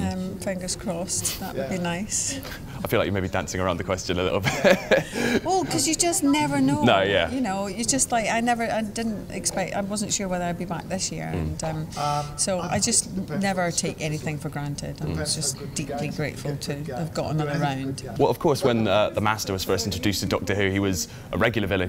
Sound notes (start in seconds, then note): 4.4 laughs